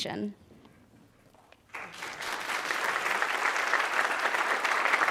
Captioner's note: audience applauding